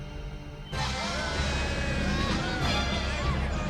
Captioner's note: cheering continues